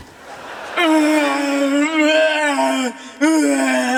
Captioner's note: moaning